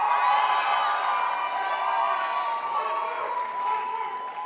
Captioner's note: crowd applauds